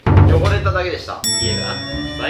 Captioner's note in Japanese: チーン